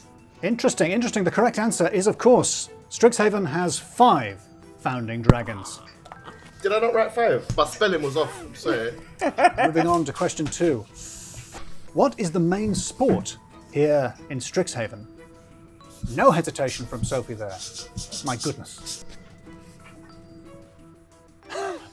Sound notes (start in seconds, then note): 5.3 groaning; 8.0 laughing; 20.1 chuckles